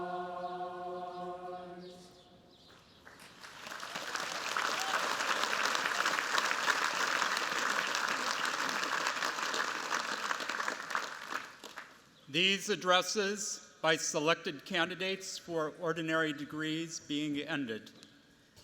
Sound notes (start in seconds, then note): 3.0 applause